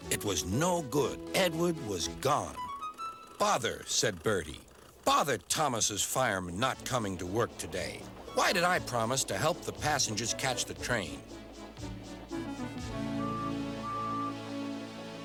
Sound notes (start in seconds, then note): 12.4 hoots